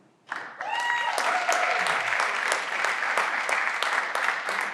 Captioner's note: everyone claps